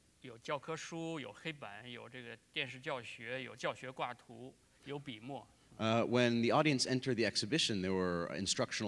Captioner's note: speaking in Chinese